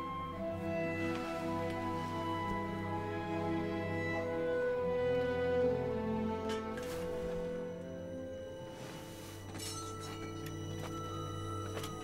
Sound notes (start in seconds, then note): none